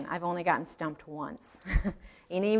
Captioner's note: chuckling